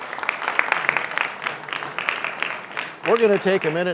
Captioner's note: applause